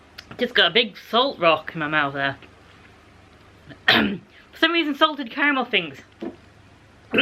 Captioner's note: ahem